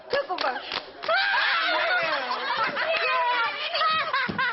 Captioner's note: all laughing